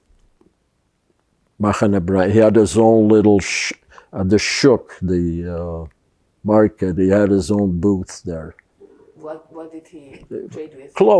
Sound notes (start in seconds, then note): 1.5 hebrew